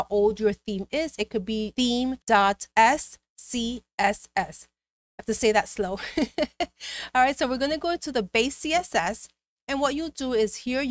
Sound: giggles

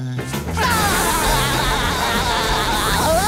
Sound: laughing

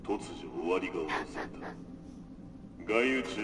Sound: laughs

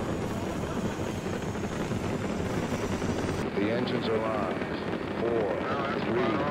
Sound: intense Static Sound

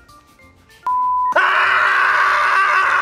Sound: beep; screaming

